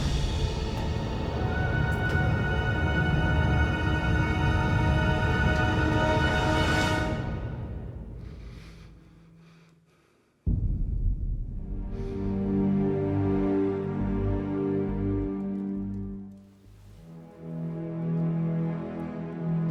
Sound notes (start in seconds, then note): 8.2 Cleopatra inhales; 11.8 gentle solemn music